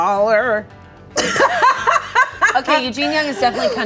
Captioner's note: both laughing